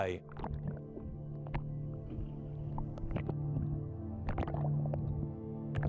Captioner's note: low music; water laps